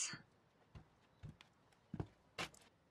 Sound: footsteps approaching

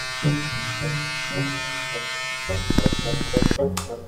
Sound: clippers buzzing

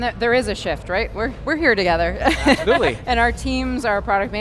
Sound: laughs

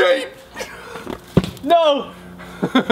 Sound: laughter

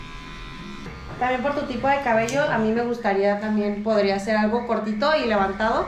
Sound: speaking in Spanish

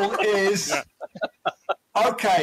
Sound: laughing

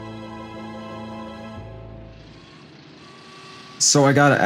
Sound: transition music; late-night traffic

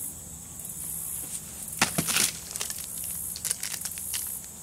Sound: thud & crunching noises

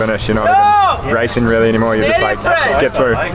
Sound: man screams

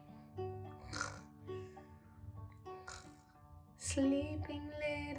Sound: snoring sounds

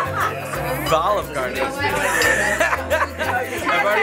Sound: laughs

